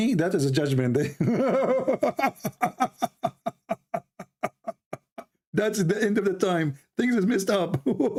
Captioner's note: Ketawa